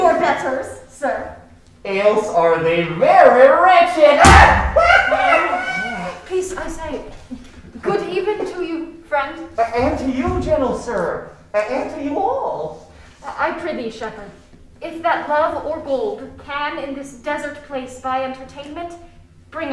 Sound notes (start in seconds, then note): 4.1 laughing